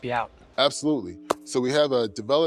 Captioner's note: claps